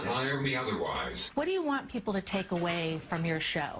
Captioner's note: voiceover